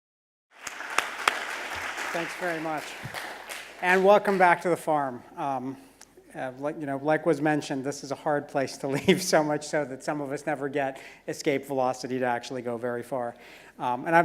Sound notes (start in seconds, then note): 0.5 applause; 9.0 laugh